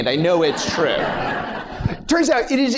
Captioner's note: laughter